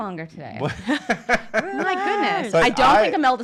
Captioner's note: laughs loudly